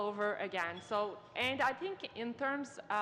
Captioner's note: speaking in french